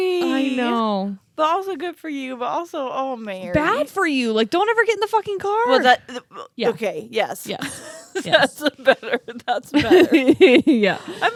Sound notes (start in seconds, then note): 5.5 stammers; 7.6 laughing; 10.2 laughs